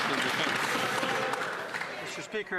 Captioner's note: applause